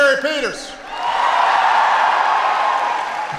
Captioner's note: applause